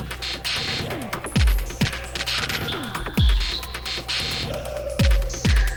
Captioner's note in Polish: Nieregularne elektroniczne uderzenia; Rzadkie niskie, głuche uderzenia